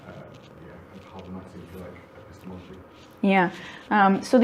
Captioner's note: participant murmuring